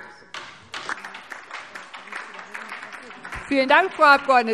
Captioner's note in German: Beifall DIE LINKE und vereinzelt SPD